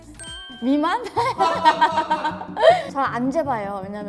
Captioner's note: cracks up